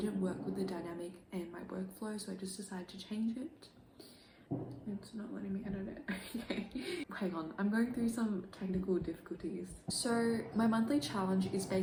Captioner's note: laughs